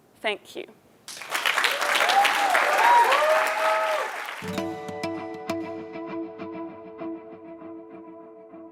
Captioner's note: applause